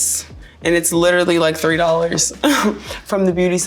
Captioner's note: chuckling